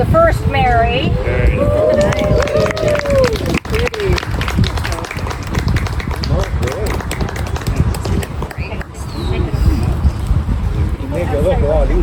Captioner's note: applause